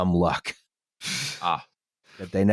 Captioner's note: sucks in breath